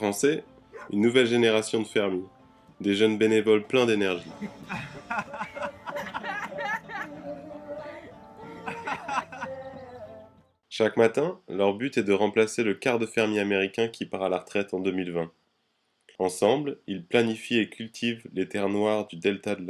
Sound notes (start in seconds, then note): 4.2 laughs